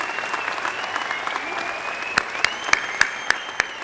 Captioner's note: applause